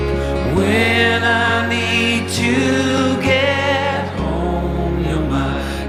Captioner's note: none